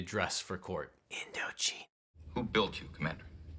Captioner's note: whispers